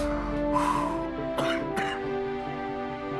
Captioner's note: coughing